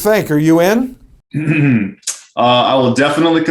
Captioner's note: clears throat